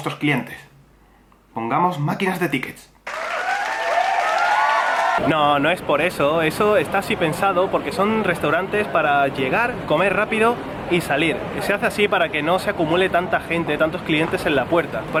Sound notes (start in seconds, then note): 3.0 applause